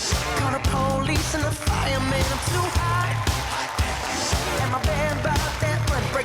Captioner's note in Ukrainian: оплески